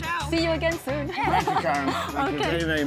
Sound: all chuckling

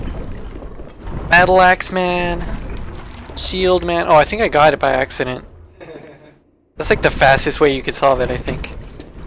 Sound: laughs

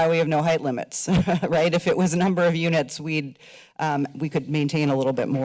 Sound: chuckles

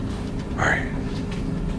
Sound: whispering

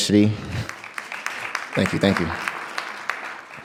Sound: clapping

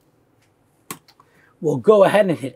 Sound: mouse clicks

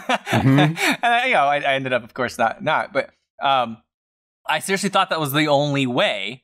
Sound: laughter

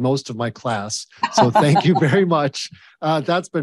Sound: Ambassador Hills laughing

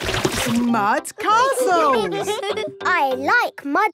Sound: all giggling

